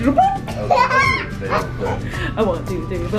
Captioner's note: giggles